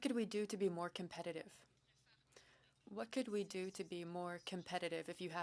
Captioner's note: speaking French